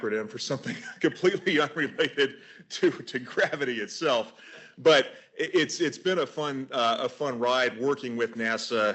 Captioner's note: laughs